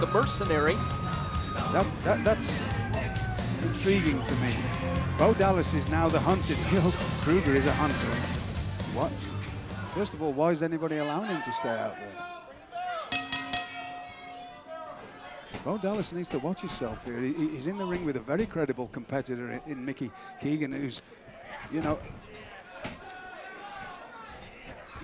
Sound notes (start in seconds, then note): 13.1 bell ringing